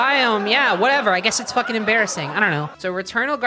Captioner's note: sitcom laughter continues